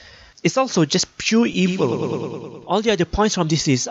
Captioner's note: echo effect